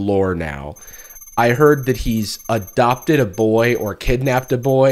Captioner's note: beeping as text appears on screen